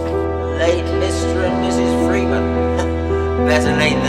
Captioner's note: voice echo